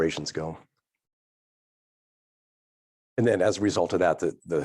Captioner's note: none